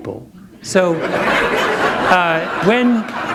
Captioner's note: laughter